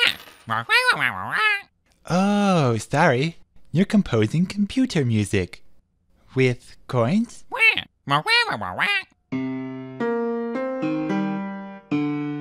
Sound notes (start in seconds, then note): 0.4 squawking; 7.4 explanatory squawking